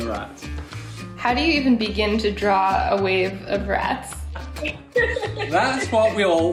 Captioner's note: laughs